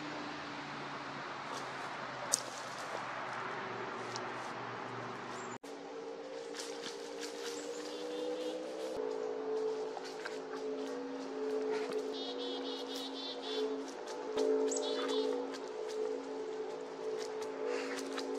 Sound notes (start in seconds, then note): 1.0 branches cracking, motorbike passing by, chickadees chirping